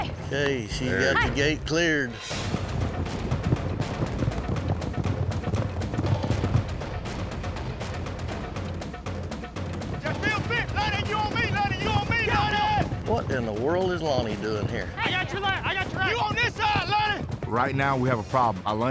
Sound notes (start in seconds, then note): 1.9 galloping